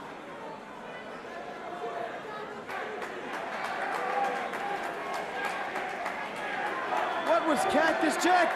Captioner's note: crowd cheering